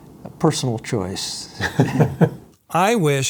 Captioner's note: laughs